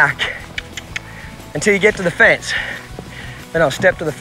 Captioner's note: mouth clicking